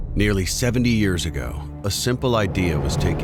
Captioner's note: voiceover